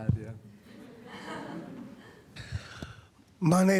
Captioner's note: laughter